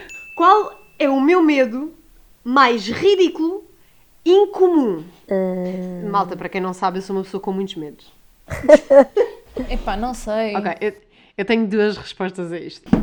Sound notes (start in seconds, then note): 8.4 laughs